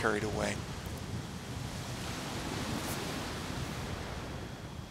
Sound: waves breaking

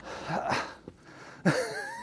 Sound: laughs

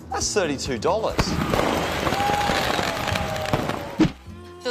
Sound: cheering, applause

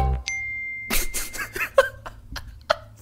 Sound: laugh

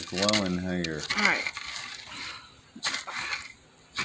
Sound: sigh

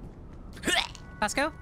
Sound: retches

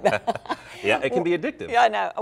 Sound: laughter

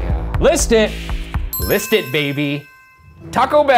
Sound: bell ringing

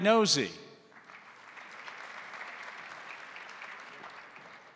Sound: crowd applauding

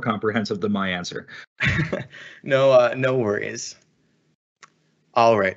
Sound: laugh

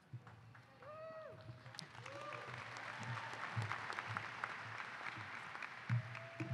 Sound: applause

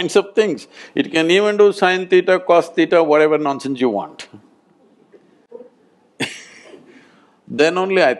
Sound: laughs

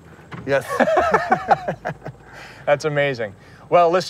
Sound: laughter

